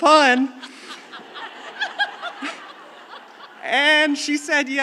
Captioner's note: audience laughing